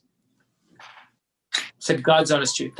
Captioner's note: clapping